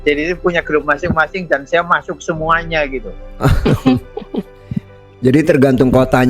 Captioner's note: tertawa